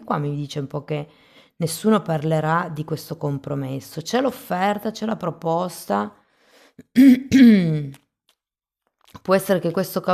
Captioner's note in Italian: schiarire la voce